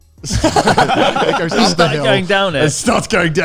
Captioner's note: all laughing loudly